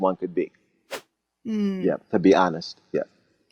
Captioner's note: whooshing sound